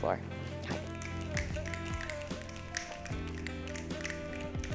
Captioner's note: snapping